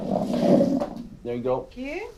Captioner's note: chair scrapes on floor